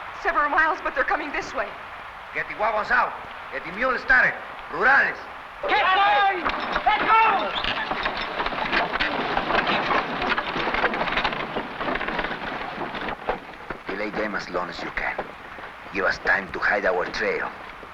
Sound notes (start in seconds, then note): 8.6 carts rattling; 8.6 objects clattering